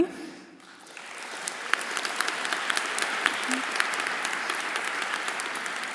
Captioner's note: everyone applauding